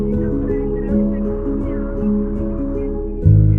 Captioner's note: wind breeze